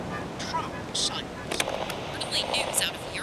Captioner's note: radio static